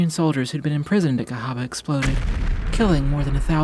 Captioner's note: explosion blasting